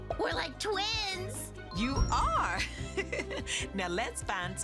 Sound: chuckles

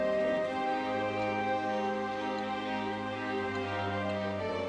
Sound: ticking

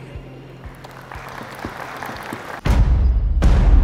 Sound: applause

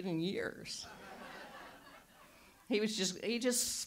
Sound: audience laughs

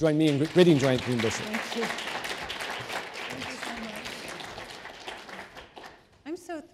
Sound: applause

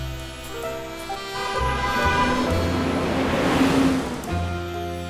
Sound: truck horn blaring

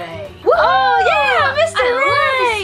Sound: cheering together

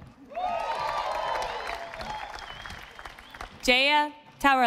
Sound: audience applauding

